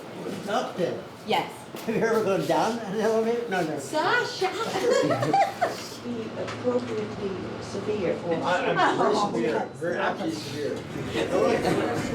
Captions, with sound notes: Up then? You ever go down in an elevator? - Sasha! (laughs) (overlapping chatter)